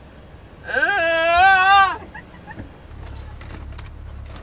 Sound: Sydney vocalizing

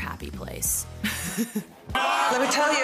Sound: laughs

